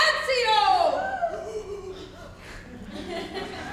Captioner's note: Tranio and Hortensio gasp; audience laughs